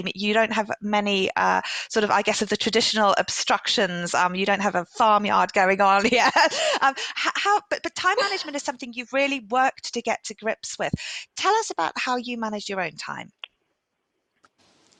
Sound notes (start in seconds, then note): 8.1 laughs